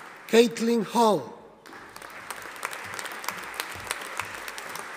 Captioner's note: audience applauding